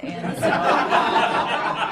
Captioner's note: laughter